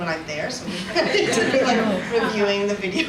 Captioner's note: audience laughs